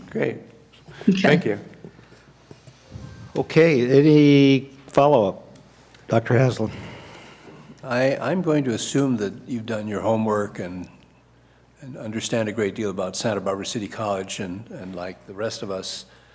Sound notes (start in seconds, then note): none